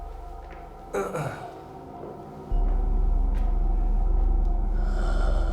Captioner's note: Danny clears throat; suspenseful music